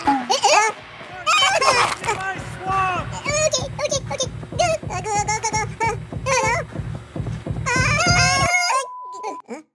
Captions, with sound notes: *scream* Okay okay okay! Go go go! *scream*